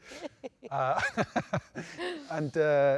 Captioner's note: both laugh